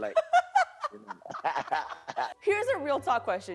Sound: laughs

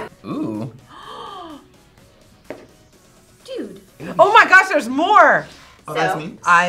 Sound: gasps; laughs

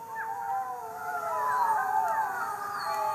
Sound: howling

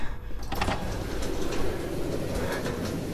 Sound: door opens

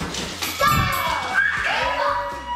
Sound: bell chimes; excited celebration

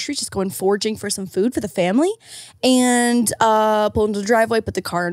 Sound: none

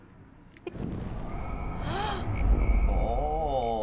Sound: gasping

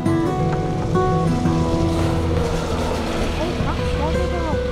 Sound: sound of guided bus passing

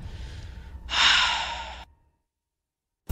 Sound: sigh

